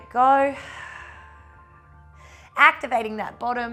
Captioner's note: exhales